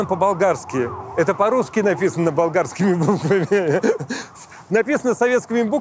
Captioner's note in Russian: смеётся